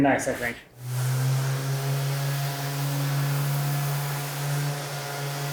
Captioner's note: sander whirring